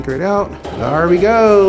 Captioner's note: laughs